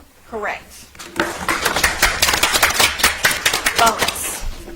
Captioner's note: audience applauds